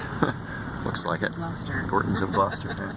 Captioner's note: chuckles; laughing